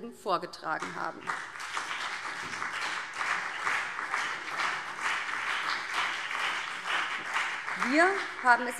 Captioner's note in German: Beifall BÜNDNIS 90/DIE GRÜNEN und CDU